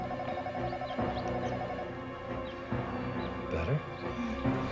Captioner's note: phone ringing